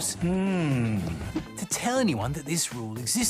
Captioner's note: whinnying